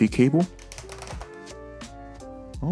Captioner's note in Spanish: La caja de plástico cruje